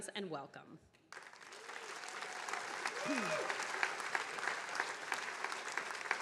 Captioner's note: attendees cheering and applauding